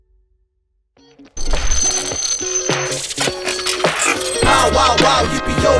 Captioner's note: robot beeping noises; upbeat metallic music